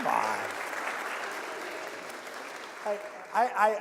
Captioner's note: applause